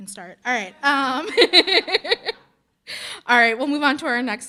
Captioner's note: laughing